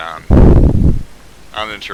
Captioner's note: obnoxious mic noises